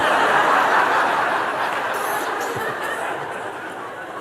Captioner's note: Lachen